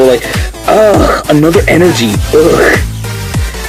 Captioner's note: disgust noises